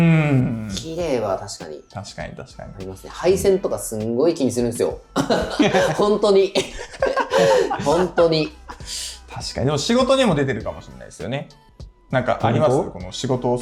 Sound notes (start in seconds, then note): 6.5 laughter